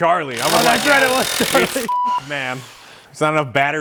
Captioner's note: beep